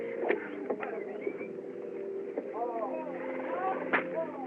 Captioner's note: men Whistling, Shouting